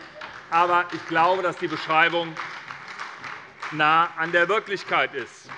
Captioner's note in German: Heiterkeit und Beifall bei der SPD und der LINKEN